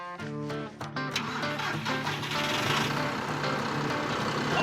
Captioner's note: engine starting